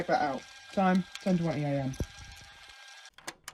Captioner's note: the tape ends and ejects